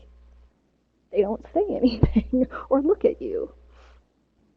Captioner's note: laughs